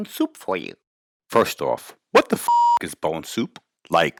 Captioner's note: beep